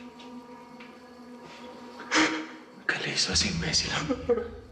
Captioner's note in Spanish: Sollozos